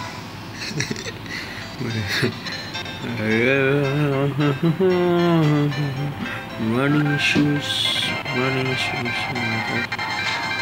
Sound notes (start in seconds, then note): 0.7 gibberish + humming